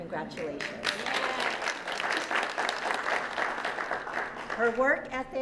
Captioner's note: applause